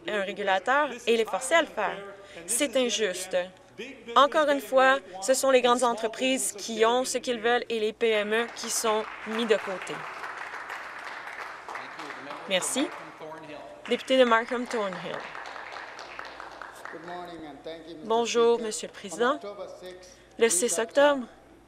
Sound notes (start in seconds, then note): 13.8 applause